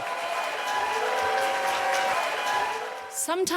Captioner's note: cheers and applause